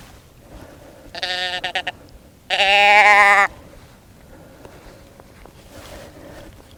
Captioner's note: calls